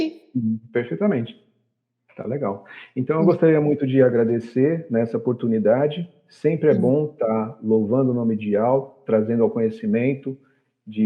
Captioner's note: Speaking Hebrew